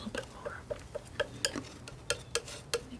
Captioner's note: scratching